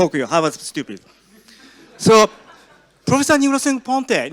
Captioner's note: audience laughs